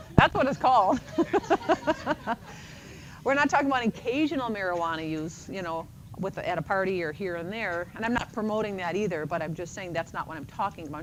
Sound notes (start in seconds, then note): 0.8 laughter